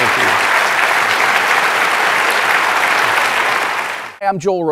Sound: audience clapping

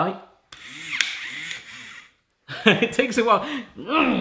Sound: whizzing

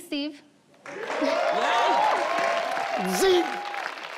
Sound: audience clapping

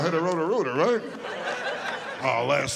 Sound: audience laughing

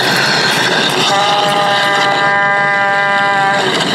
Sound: horn sound

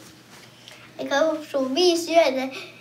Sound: both speaking Finnish

